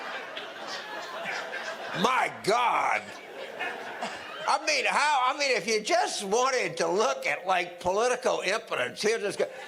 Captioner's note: audience laughter